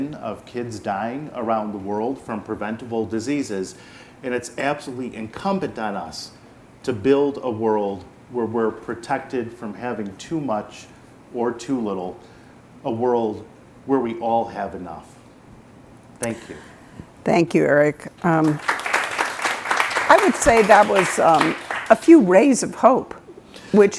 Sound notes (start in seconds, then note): 18.3 attendees clapping